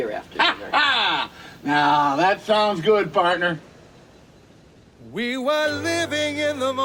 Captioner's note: laughs